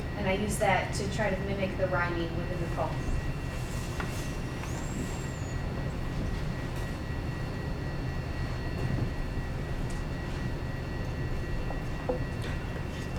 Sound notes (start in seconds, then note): none